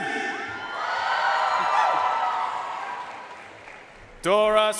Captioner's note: audience cheering and applauding